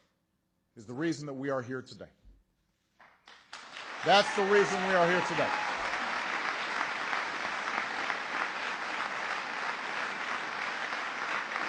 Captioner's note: applause